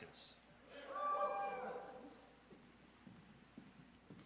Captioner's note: audience cheers